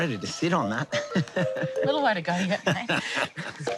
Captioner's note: laughs